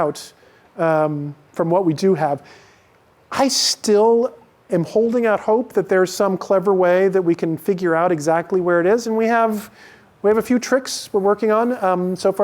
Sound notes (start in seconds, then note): none